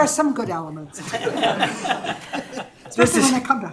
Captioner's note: laughter